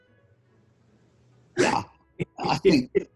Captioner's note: chuckling